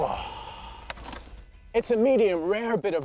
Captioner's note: groans